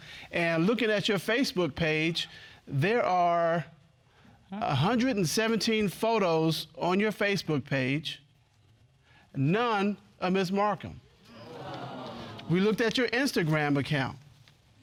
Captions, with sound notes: And looking at your Facebook page, there are 117 photos on your Facebook page. None of Ms. Marcum. (AUDIENCE EXCLAIMING) We looked at your Instagram account.